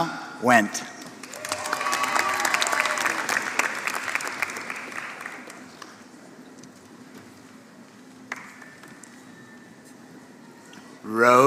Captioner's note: applause